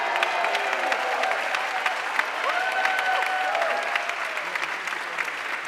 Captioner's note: audience cheering and applauding